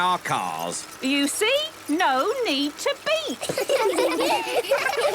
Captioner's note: laughter